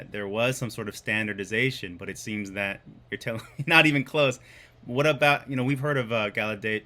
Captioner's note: laughs